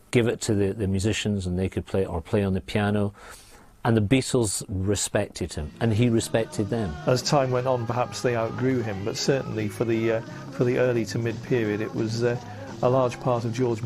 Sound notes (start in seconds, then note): none